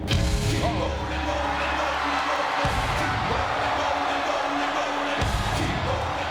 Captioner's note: intense music; crowd cheering